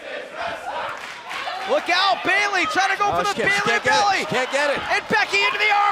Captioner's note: fans chanting